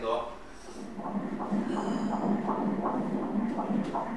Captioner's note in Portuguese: batidas do coração